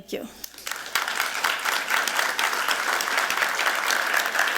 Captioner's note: applause